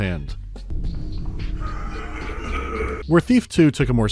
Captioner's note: approaching coughing